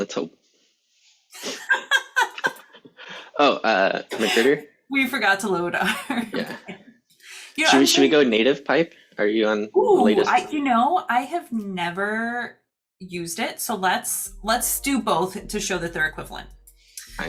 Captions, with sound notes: Let's hope. [LAUGHING] Oh. We forgot to load our-- Yeah. Should we go native pipe? Are you on the latest? Oh, I have never used it, so let's do both to show that they're equivalent.